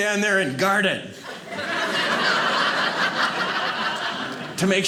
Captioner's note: audience laughing